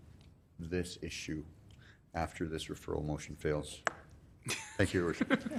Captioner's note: laughing